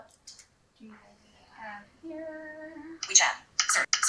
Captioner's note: in a singsong voice; automated voice from screenreader